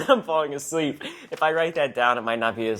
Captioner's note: laughs